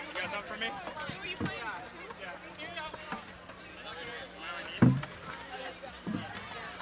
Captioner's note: indistinct overlapping chatter